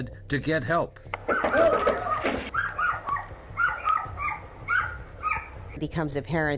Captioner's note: dog barking